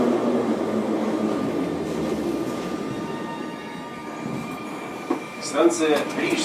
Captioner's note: train in the other direction leaves to the next station